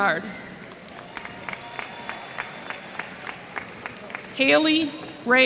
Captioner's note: applause